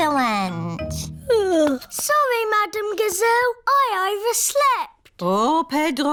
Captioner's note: yawns